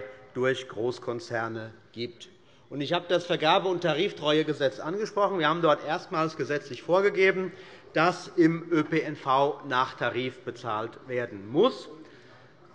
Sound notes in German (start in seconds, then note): none